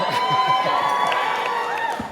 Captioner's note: applause and cheers